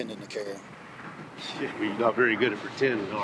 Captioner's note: scoffs